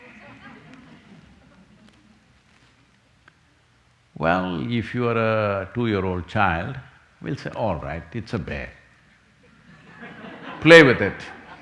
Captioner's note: few laugh